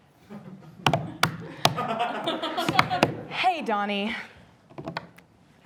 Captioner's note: audience laughing